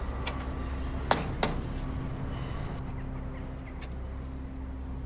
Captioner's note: Sonny knocks on door